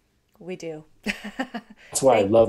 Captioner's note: laughs